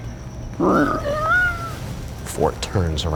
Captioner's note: creaking